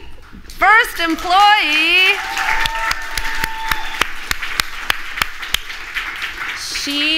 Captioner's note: applause